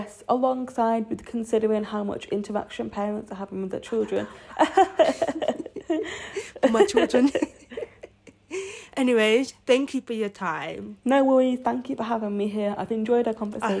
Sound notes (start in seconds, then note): 4.0 laughter; 8.3 chuckles